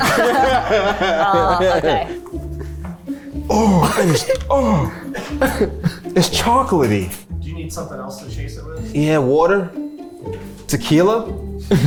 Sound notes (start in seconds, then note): 0.0 everyone laughs; 4.4 groans